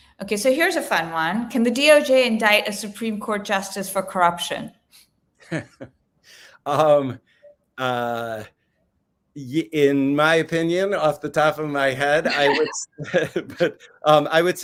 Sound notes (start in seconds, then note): 5.4 laughs; 12.2 laughs